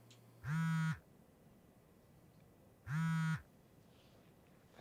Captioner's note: phone vibrates